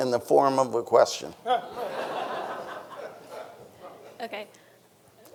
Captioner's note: everyone laughing